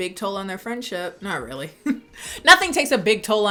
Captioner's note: laughing